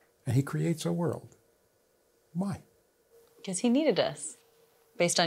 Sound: none

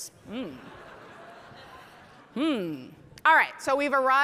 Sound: audience laughing

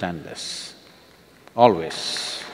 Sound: applause

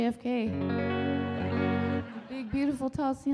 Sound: audience laughing

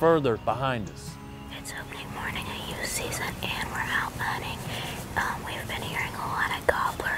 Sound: whispering

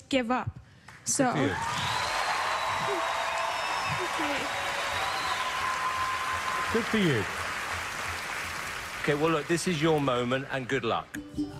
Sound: audience cheers

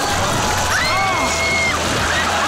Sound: screaming

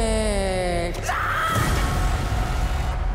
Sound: screaming

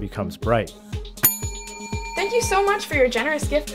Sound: bell ringing

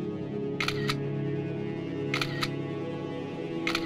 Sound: camera snapping

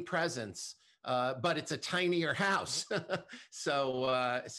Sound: laughs

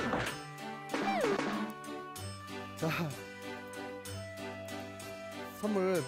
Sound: clap

